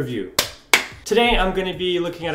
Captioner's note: rustic clapping